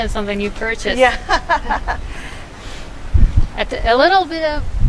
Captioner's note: laughs